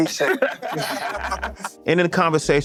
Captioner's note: laughing